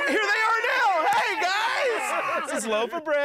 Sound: cheering

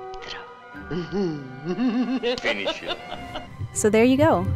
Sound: maniacal laughter

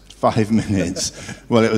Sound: laugh

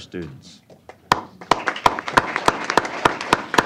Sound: applause

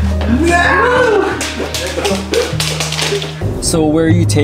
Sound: screaming; nails clacking

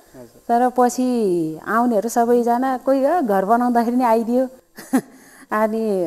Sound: laughter

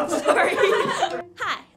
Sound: everyone laughing

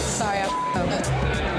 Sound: beep

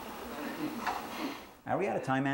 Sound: scattered laughter

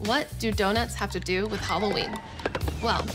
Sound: horse whinnies

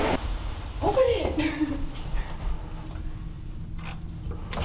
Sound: giggles

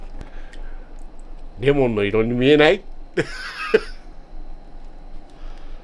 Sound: laugh

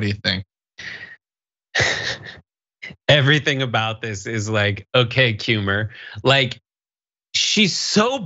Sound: laugh

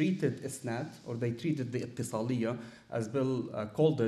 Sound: speaking arabic

